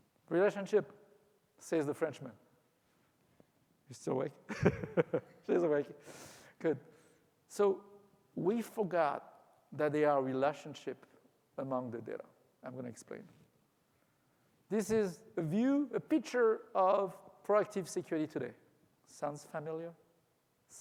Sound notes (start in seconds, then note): 4.5 laughs